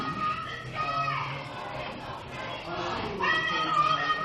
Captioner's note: crowd chanting